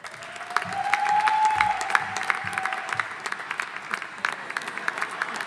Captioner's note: audience applauding